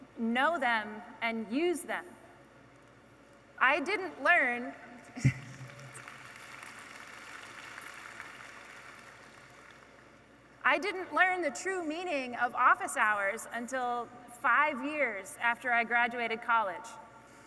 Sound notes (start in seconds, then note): 5.3 audience applauding